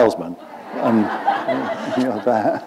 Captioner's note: laughter